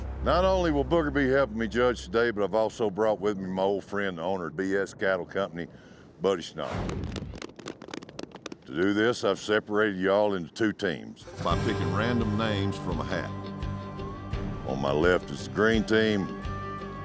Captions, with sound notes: NOT ONLY WILL BOOGER BE HELPING ME JUDGE TODAY, BUT I'VE ALSO BROUGHT WITH ME MY OLD FRIEND AND THE OWNER OF B.S. CATTLE COMPANY, BUDDY SCHNAUFER. [COWBOYS CLAPPING] TO DO THIS, I'VE SEPARATED Y'ALL INTO TWO TEAMS BY PICKING RANDOM NAMES FROM A HAT. ON MY LEFT IS THE GREEN TEAM,